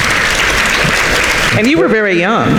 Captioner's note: audience applauding